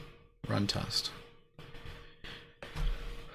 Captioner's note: exhales